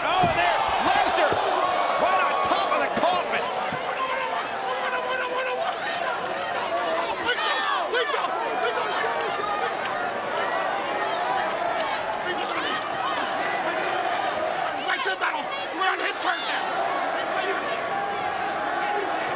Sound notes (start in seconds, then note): 4.4 crowd murmuring